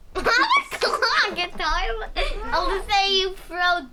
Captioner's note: laughing